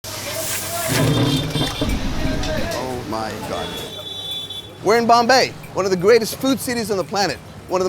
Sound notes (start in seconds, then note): 0.1 food sizzling; 0.8 car horn honking